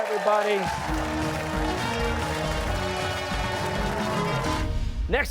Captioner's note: cheers and applause